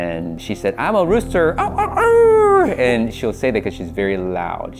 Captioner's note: rooster noise